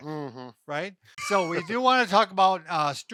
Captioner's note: laughs